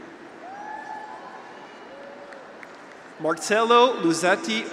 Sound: graduate whoops

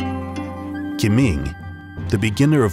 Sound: speaking in foreign language

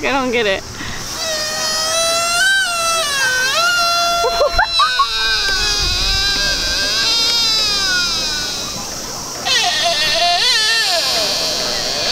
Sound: deer makes deer noise

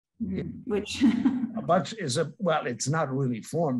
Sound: laughs

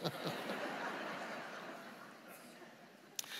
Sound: laughing

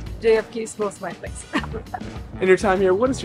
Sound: chuckle

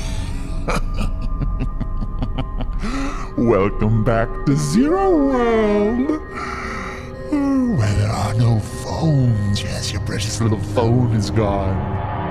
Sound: laughs menacingly

